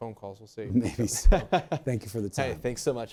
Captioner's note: laughs